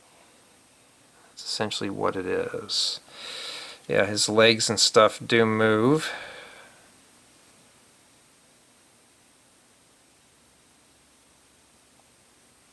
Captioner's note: sighs